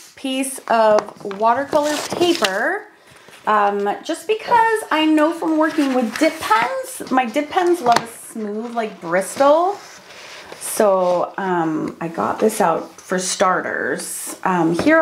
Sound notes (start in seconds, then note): none